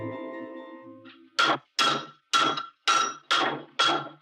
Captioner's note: metal pounding